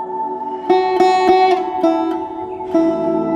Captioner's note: blowing